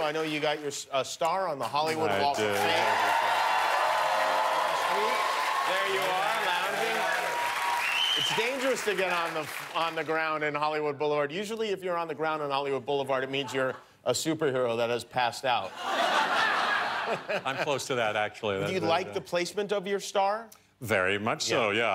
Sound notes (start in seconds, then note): 8.8 cheers and applause; 18.6 laughter